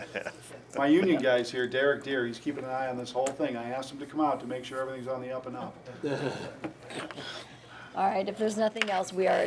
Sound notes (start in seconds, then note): 6.0 laughing